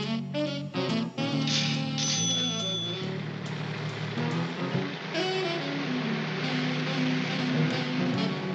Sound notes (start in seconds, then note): 1.4 cash register rings